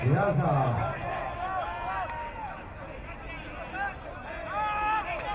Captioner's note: crowd cheering